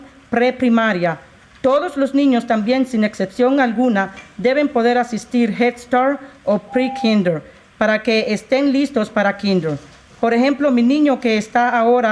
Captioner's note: speaking in spanish